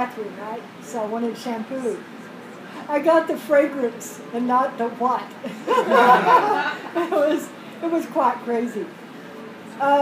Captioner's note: laughter